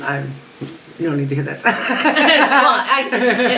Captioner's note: laughs